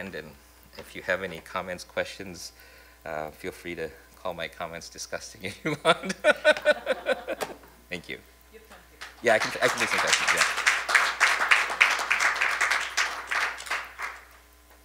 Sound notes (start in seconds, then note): 5.7 laughs; 10.5 applause